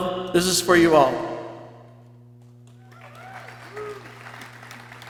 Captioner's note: people cheering